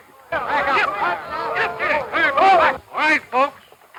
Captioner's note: crowd yelling